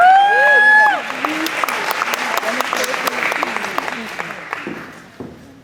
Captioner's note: clapping, cheering